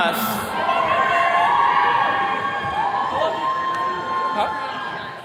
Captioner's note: attendees cheering